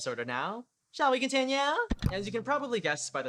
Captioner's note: click